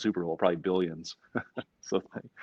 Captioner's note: laughs gently